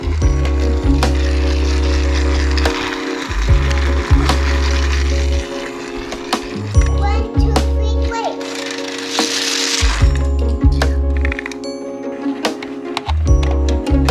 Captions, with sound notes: (train rolling on tracks) - One, two, three, race. (trains rolling down tracks)